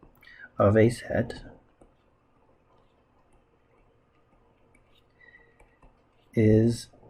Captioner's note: writing Sounds